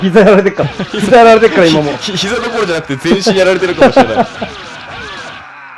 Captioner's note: laughs